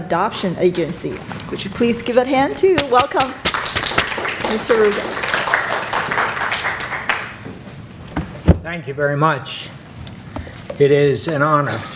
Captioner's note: clapping